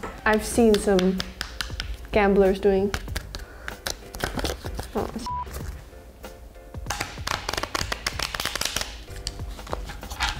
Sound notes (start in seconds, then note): 0.7 cards tapping loudly; 3.4 cards tapping loudly; 5.2 beep; 6.8 cards tapping loudly